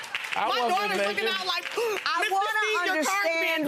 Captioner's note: gasp